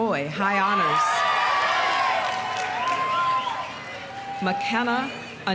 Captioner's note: audience cheering; audience applauding